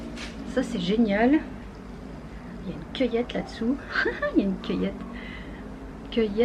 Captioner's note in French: rire